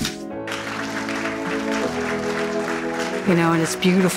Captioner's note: applause